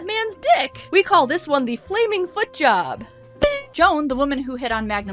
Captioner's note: dink